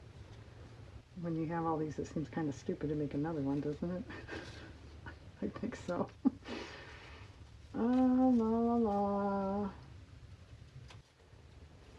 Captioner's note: laughs